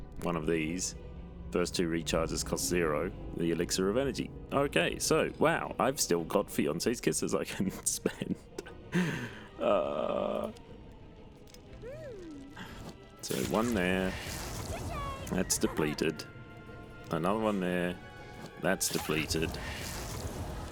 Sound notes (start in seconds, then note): 9.6 laughing; 9.7 groan of joyful disbelief